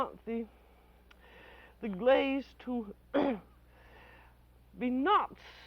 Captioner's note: clears throat